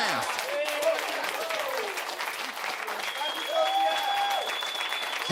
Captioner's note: audience applauds